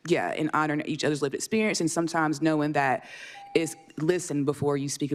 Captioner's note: beep